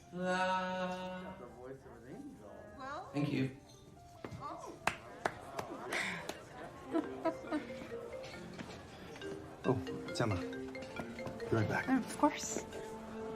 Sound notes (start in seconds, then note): 4.8 clapping; 5.7 laughing; 7.0 phone ringing